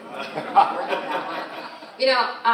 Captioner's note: all laughing